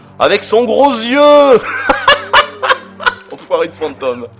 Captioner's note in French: rires